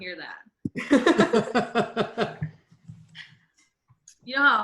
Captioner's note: laughing